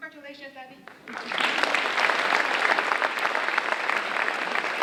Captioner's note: audience applauding